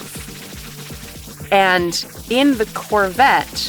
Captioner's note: none